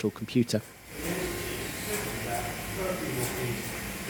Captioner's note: sound of colossus working; circuits opening and closing, tape feeding